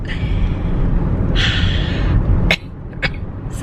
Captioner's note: sighs